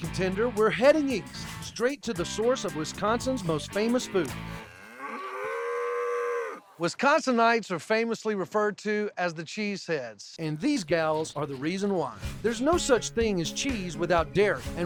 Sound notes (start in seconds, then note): 4.5 mooing